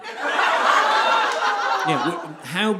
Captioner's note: audience laughing